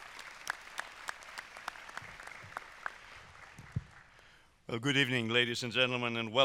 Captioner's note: applause